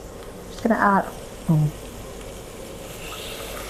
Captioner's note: stir frying